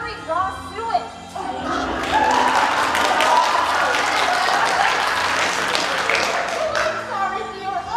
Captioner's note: applause